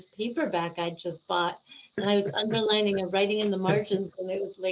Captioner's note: laughing